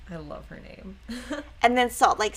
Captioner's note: chuckles